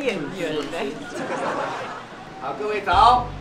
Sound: laughing non-stop

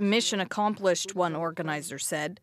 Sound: speaking indigenous language

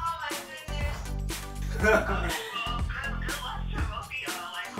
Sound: laughs

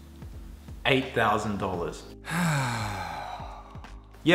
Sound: sighs

